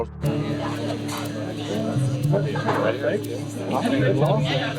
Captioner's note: people chattering